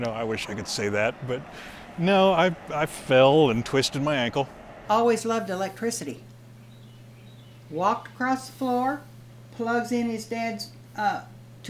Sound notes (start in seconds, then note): 8.8 birds chirping